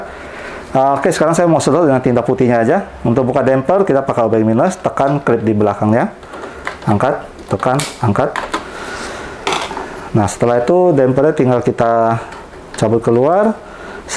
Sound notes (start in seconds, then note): 0.1 inhale; 6.2 screwdriver sound; 6.8 installing damper sound; 8.6 inhale; 8.7 screwdriver sound